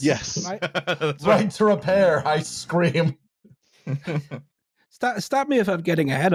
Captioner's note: laughs